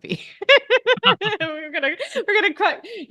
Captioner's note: both laughing